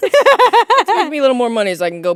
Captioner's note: both laughing; laughing